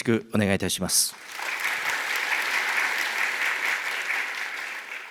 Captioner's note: clapping sound